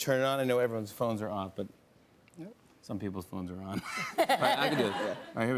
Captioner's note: laughter